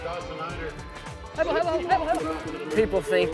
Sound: announcer talking

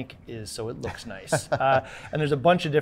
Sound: laughing

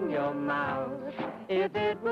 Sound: heels smack

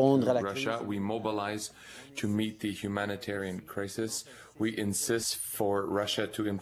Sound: speaking French

